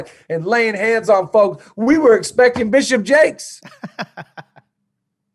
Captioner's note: laughs